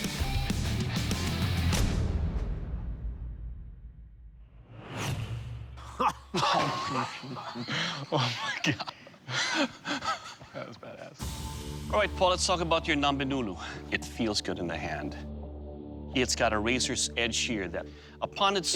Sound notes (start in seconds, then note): 5.9 laughter